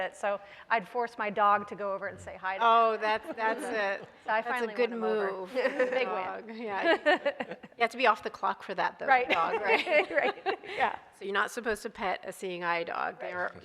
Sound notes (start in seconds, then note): 6.8 laughs; 9.3 laughing